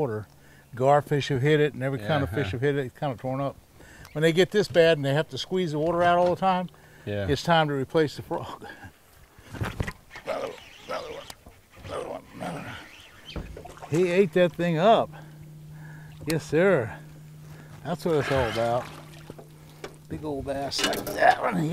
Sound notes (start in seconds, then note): 10.2 rod whipping; 10.2 chuckling; 14.1 reel cranking